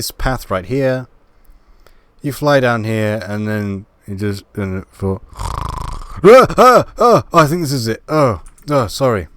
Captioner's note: snoring